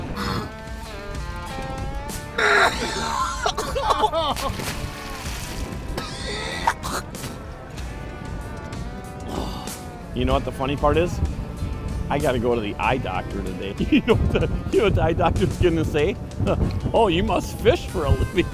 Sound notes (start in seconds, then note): 2.3 coughing